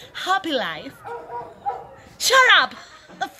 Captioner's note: bark; laughs